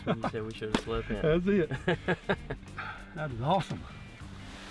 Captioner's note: laughing